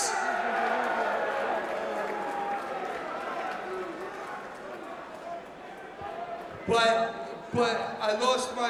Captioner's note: crowd cheering